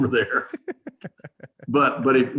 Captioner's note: laughing